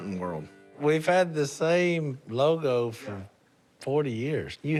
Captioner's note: none